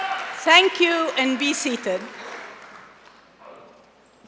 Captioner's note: applause